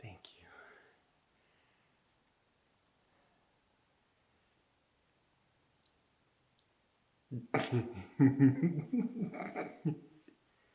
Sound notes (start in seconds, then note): 7.3 Jacob laughing